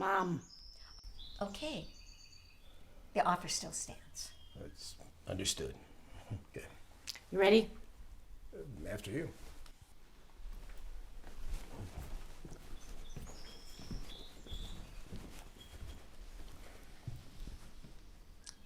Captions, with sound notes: - Mom. - Okay. The offer still stands. - It's understood, okay. - You ready? - After you. (footsteps receding) (birds chirping)